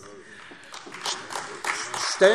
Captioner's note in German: Beifall AfD